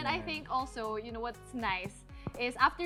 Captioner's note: none